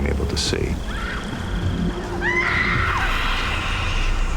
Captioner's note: screaming